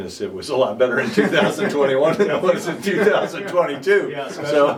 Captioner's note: laughing